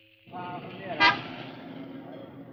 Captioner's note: horn blares